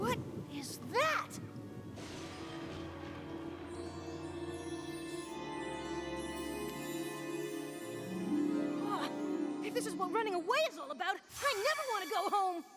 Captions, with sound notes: WHAT IS THAT?! [ TWINKLING ] WOW! IF THIS IS WHAT RUNNING AWAY IS ALL ABOUT,